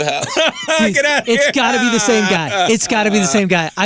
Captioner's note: laughing